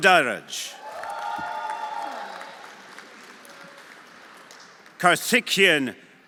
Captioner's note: everyone applauding